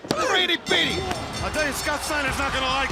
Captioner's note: bell ringing